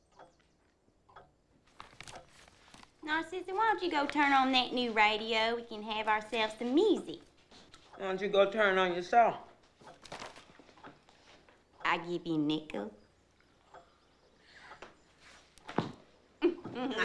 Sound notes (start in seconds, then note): 1.0 clock ticking